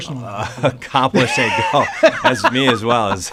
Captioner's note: laughter